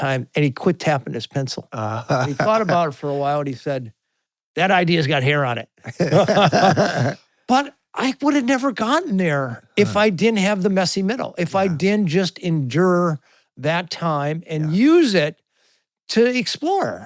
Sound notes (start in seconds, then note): 5.8 both laughing